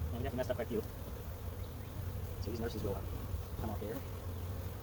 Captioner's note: bees buzzing; sped up talking; bees buzzing